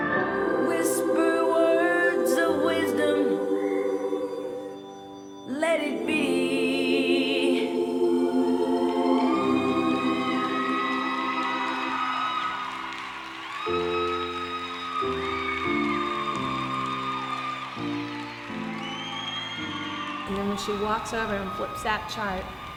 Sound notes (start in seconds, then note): 8.3 audience cheers; 13.7 gentle piano music